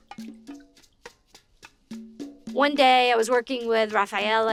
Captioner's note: water drips